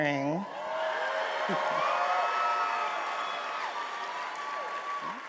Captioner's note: attendees applauding and cheering